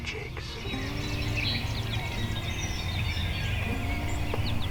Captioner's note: birds chirping